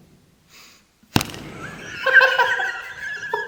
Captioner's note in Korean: 바닥 강타